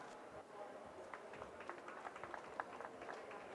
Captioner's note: applause